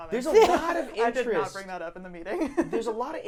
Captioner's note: laughing